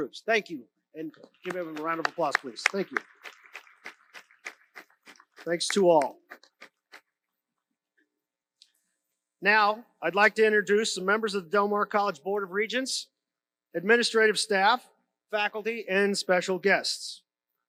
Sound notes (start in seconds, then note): 4.2 audience applauds